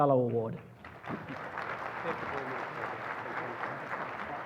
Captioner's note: applause